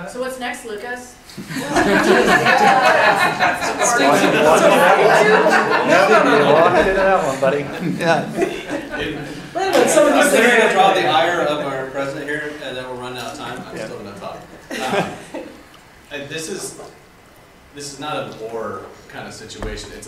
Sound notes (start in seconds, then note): 1.5 attendees laughing; 3.4 attendees chattering; 13.2 attendees laughing